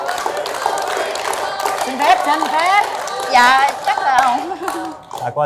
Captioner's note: applause